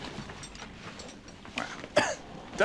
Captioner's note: coughs